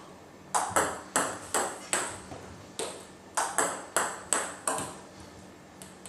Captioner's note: ball ping pong hitting continues